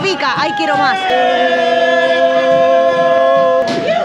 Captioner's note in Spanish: Muchos Gritos